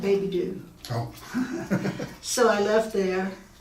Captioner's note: laughing